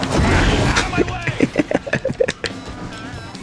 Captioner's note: laughs to myself